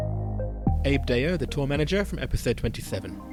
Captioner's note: voiceover